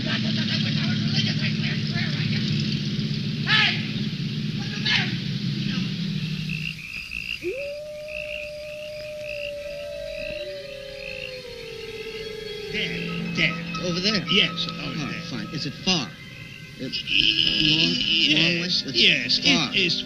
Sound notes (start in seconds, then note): 6.8 wolves howling